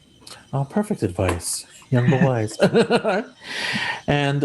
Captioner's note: laughs